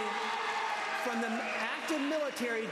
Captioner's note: applause